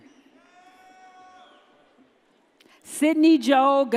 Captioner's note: audience cheers